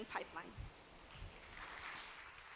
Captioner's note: applause